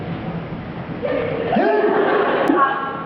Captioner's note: laughs